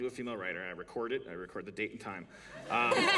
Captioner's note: laughter